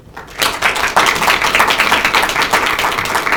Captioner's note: applauding